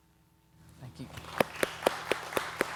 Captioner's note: audience applauding